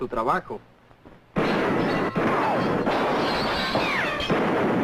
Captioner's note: gunshots